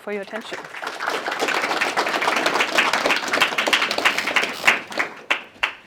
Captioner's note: applause